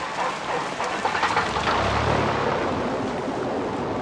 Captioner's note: engine whirring